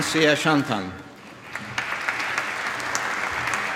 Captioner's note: applause